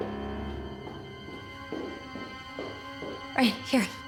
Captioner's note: shoes stepping